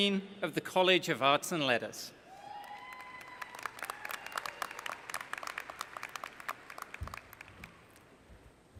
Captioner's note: applause